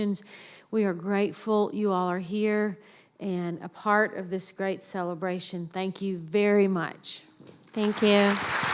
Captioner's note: applause